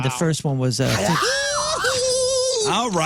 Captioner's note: screaming